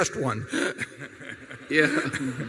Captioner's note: laughter